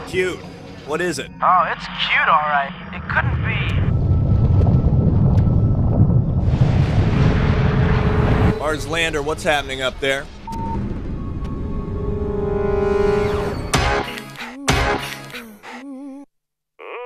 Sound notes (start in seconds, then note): 4.0 ground rumbling; 11.3 dramatic music; 13.8 upbeat pop music